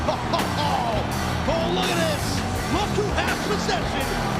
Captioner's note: laughs